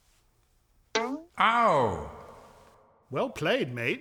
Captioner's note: echoing